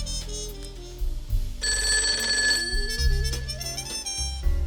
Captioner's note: phone ringing